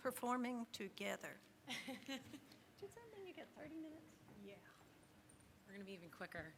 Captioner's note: laughs